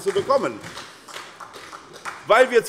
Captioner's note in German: Beifall SPD